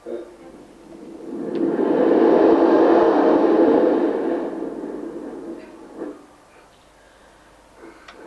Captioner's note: shri mataji blows into the mic; shri mataji blows into the mic